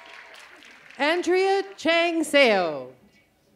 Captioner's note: cheers and applause